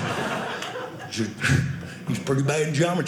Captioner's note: audience laughing; audience applauding